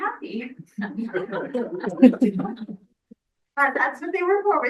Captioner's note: everyone laughing